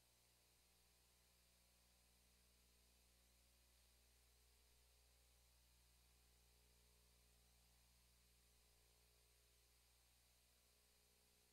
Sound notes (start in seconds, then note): none